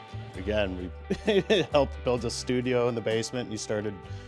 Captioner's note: laughing